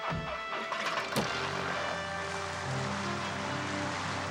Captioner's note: motor whirring